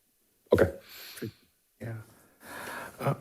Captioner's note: speaks faintly